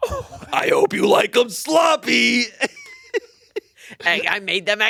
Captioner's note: laughs